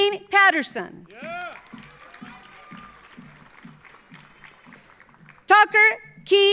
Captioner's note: audience cheering; audience applauding